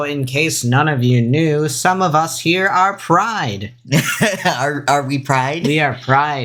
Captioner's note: laughs